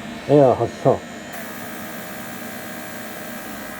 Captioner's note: air injection sound